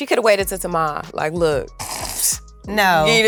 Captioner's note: snorts